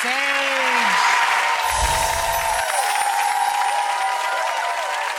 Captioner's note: audience applauds